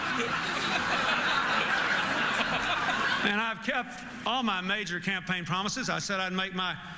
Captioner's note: laughter